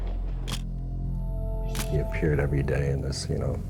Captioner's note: camera shutter click